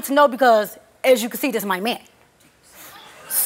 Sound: audience oohing

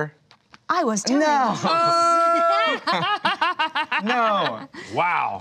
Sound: laughs

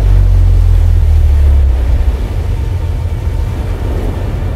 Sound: eerie music; ocean waves

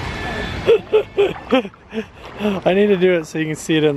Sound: laughs

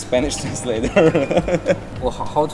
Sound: laughs

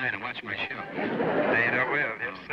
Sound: on phone

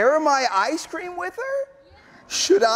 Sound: none

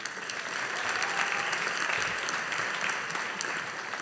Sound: audience applauding

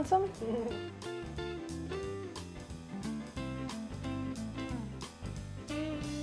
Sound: upbeat music; giggles

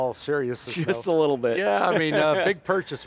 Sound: laughs

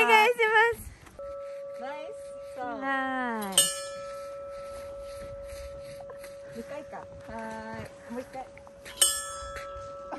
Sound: ding

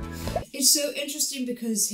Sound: audio pops

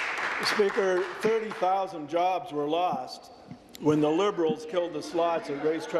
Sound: applause

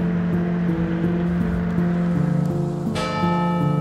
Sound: relaxing piano music; city ambience; bell chiming

